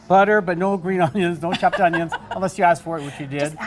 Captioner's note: laughing